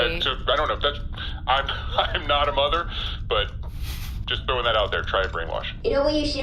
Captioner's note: laughing